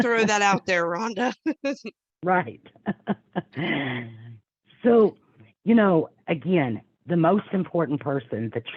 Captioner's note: laughing